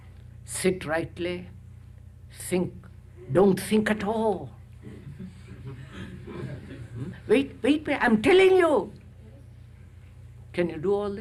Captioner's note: laughter